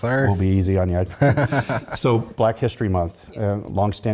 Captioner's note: laugh